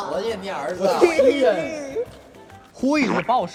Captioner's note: hehehe